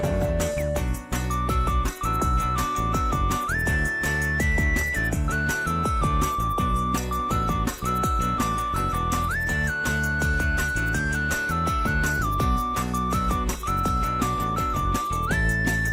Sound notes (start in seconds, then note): none